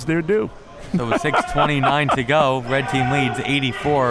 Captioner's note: laughing